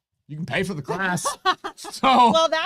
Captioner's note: laughs